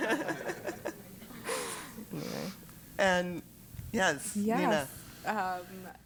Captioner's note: laugh